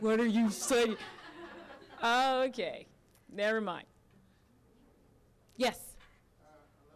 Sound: audience laughing

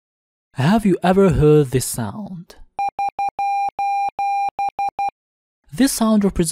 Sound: SOS sound in morse

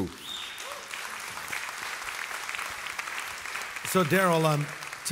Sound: audience applauds

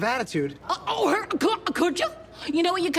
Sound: with mock excitement

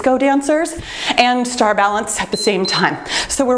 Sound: timer beeps

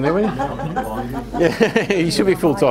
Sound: crowd laughter

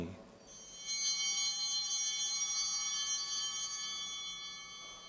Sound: bell ringing

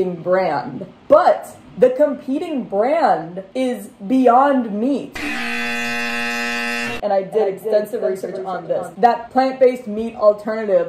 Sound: flashback voice; loud buzzer

